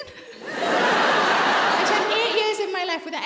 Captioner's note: audience laughs